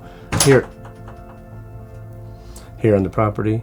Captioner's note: metal clanking